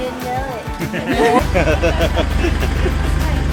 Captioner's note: laughter